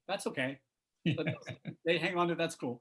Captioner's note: laughter